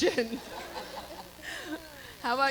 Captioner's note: Kelly laughs